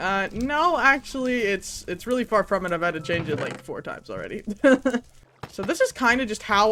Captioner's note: laughs